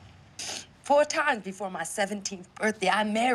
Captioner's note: sniffles